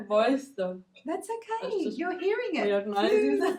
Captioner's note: laughs